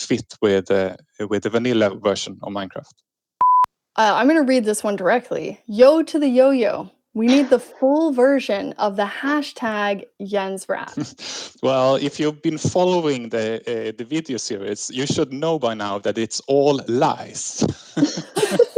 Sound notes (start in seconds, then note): 17.2 laughs